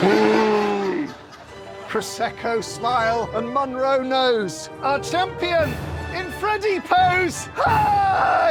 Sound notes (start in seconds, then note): 0.5 slow-motion shout